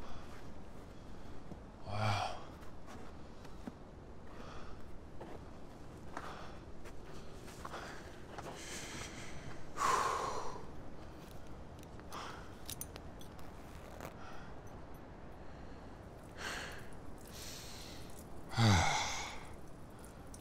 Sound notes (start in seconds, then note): 9.8 exhales; 12.5 unbuckles belt